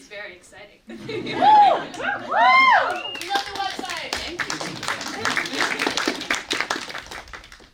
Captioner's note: website applause